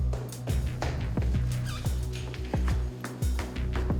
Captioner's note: footsteps